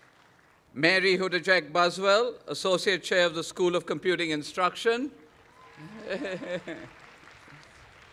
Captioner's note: applause